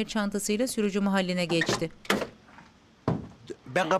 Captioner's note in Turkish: Kapı açılma sesi